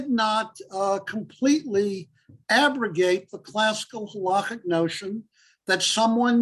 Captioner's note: Hebrew